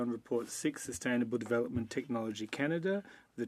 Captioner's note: speaking French